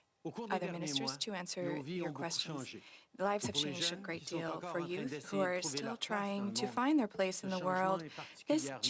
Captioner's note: speaking French